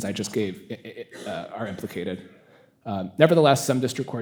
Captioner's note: attendee coughing